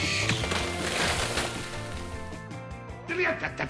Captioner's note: drone crashes